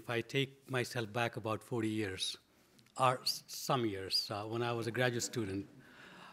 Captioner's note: audience laughs